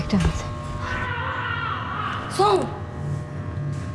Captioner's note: sloan screams in distance